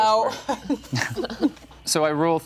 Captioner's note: group laughing